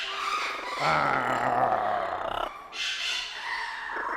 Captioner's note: argh